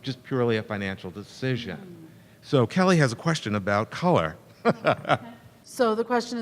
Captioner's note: laughter